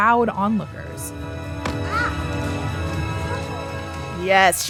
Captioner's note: soundbite of baseball hitting glove